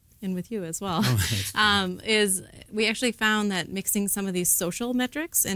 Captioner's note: laugh